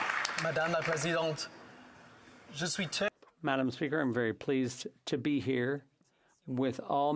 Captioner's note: applause